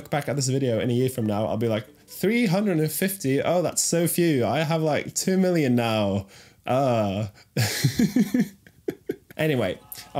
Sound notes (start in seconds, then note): 7.6 laughs